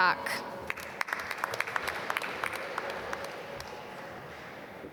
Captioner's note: applause